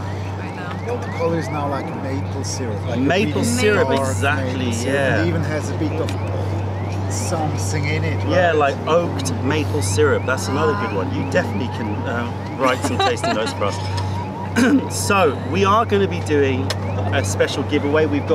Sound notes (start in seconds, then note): 12.6 laughter